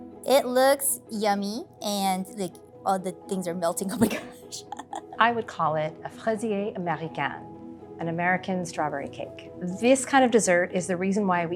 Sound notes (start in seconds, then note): 3.8 laughs; 6.1 speaks French